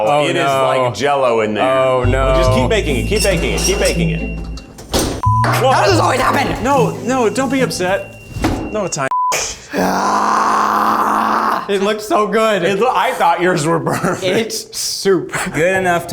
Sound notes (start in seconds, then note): 6.9 beeps; 9.6 groans